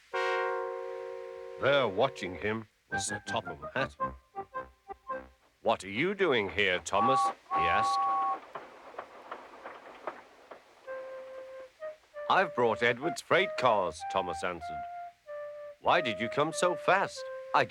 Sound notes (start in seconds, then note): 8.1 tooting